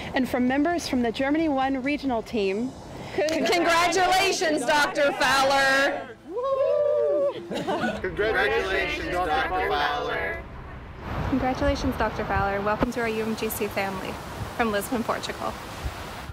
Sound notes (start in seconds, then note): 7.1 chuckling